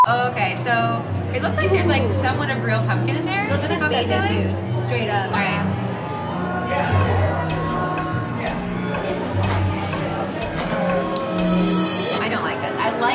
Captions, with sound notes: (beep) - Oh, okay, so, it looks like there's somewhat of real pumpkin in there. - Looks like baby food, straight up. All right. (clock ticking) - I don't like this.